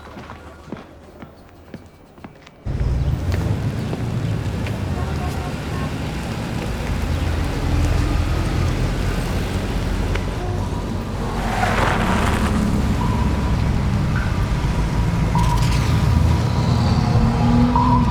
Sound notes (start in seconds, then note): 5.6 horns honking; 12.0 tires screeching